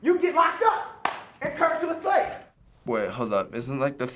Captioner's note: claps